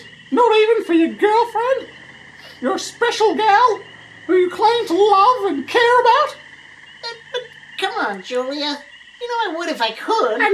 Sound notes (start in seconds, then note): 2.3 Cataliss sniffs